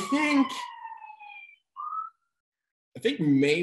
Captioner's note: siren in background